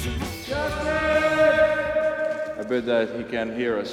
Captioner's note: yelling